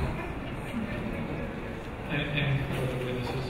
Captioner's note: audience chuckling